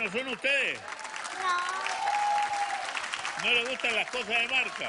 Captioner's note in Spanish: aplausos